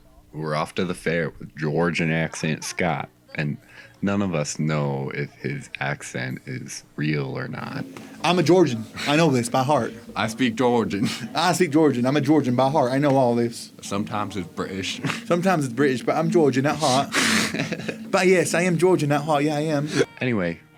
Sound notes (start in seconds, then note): 8.2 imitating southern drawl; 16.6 accent goes cockney